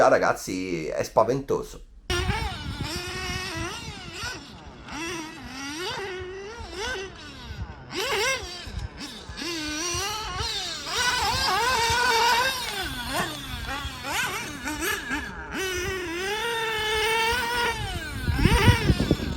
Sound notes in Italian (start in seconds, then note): 1.9 engine sound